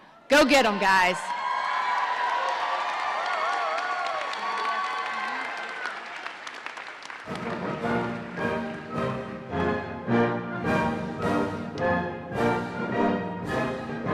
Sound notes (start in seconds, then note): 1.7 audience cheering; 7.2 ceremonious music